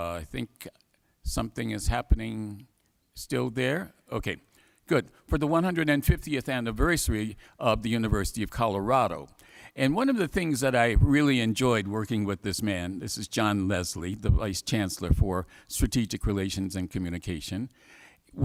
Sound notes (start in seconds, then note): none